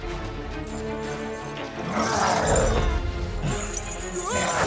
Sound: growls

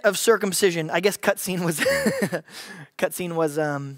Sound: laughs

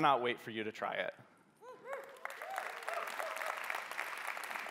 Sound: cheering

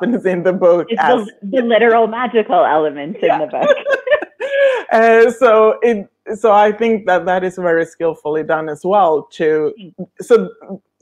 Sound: laughing

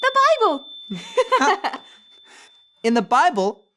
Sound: bell rings; giggles

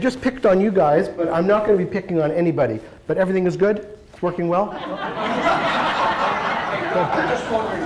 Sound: laughter

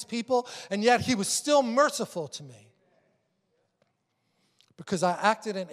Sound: congregation agreeing

